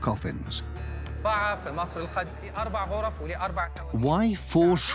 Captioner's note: Arabic dubbed in English